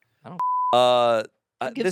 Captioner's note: beep